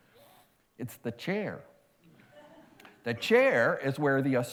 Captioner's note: laughter